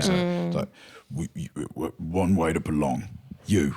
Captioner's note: deep voice